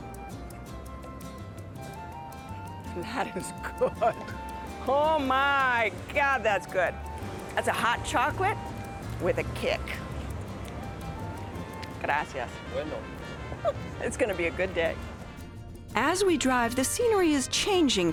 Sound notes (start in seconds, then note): 3.7 chuckling; 13.5 chuckles